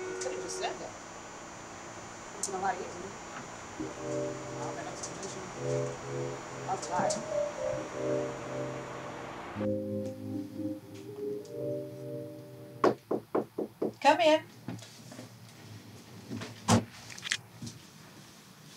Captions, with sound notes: - You could have just said that. Would have been a lot easier. All that explanation. That was a lot. (chill music) (knocking) - Come in.